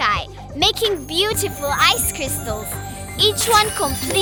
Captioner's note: none